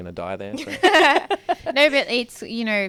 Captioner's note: hosts laugh